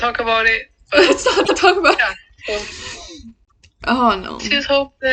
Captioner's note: through laughter